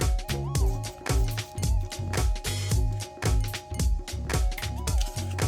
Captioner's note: gloves squeak